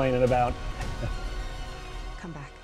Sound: chuckles

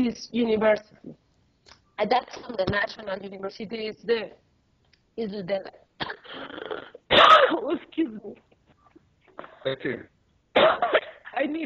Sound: started coughing

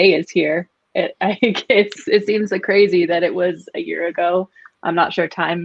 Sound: giggles

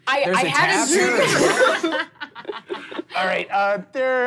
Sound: laughing

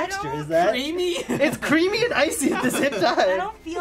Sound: laughs

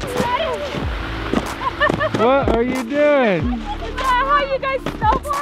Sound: laughing

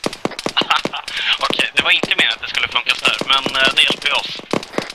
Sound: laughter

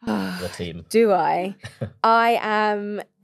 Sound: sighing heavily

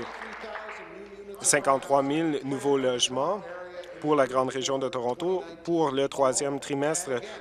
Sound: applause

